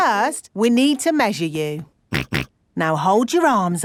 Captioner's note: snorts